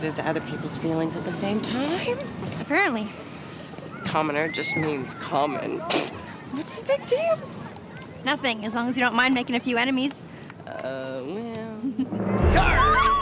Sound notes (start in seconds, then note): 6.1 laughs; 12.1 suspenseful music